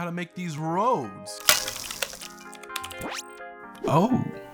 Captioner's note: typing